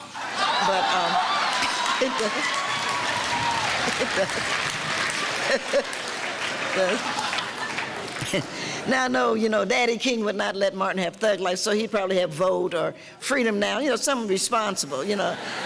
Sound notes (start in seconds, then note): 0.0 audience cheering and laughter; 5.3 Giovanni and audience laughing